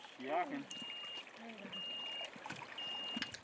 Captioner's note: beeping